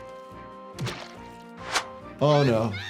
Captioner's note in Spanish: algo salpica